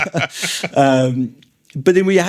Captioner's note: laughing